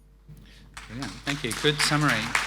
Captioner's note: audience applauding